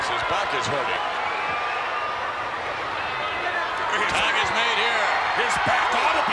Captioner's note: applause